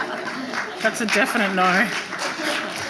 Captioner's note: audience applauding